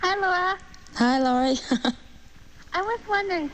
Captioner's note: laughs